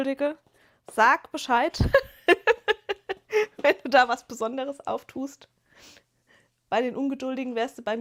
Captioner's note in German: gelächter